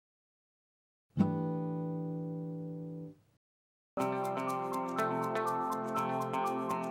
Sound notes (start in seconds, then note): 1.4 chime sounds; 4.0 upbeat music